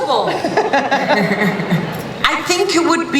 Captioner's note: laughter